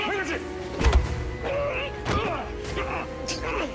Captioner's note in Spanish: Gruñidos; Golpes